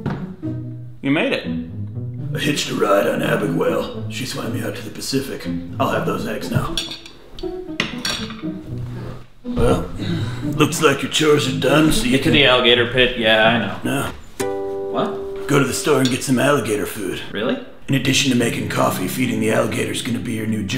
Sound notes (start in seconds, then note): 7.8 clinking of fork on plate